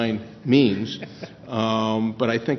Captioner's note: laughs